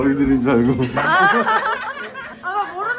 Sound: laughing

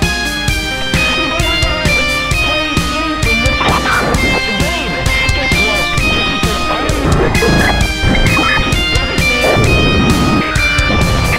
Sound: glitching

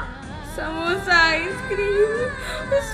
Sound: sobs

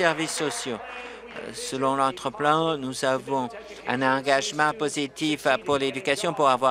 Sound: applause

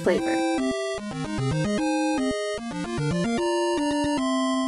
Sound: video game playing

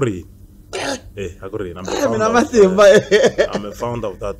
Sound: luaghs

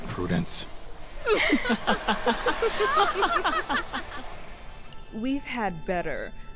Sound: women wickedly laughing

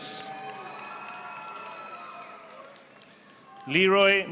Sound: audience applauding

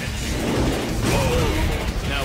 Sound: Villain 4 grunts

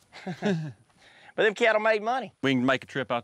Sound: chuckling

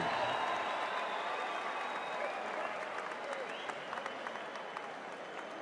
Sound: cheers and applause

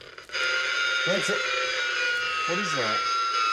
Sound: high-pitched grinding

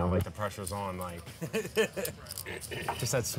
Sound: laughing

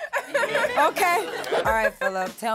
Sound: group laughs

